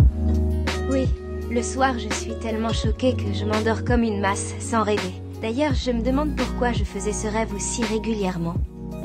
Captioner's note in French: voix féminine; voix masculine